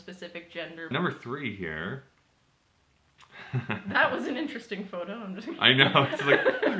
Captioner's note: chuckles